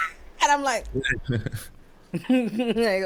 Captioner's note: laughing